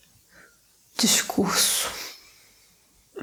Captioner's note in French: portugais